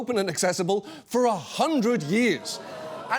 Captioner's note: audience groans